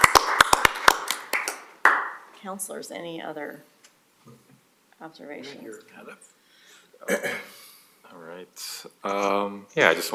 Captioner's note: applause